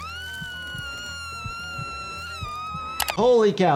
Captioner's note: screaming